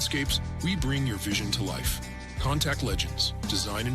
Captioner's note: none